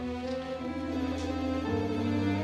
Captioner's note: phone ringing